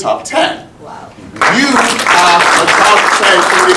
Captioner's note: audience applauding